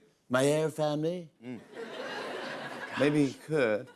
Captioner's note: laughter